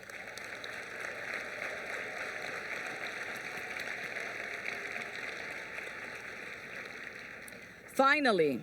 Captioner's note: applause